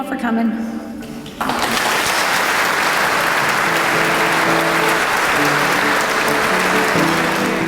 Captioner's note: applause